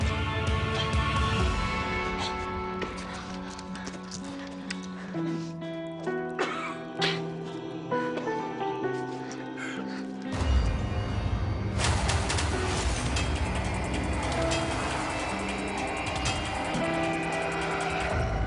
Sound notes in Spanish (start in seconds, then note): 0.3 Quejido; 6.2 Francisco tose